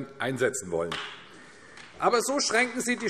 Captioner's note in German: Beifall AfD